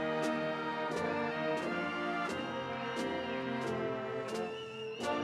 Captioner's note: audience cheering